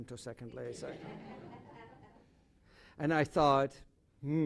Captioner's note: laughter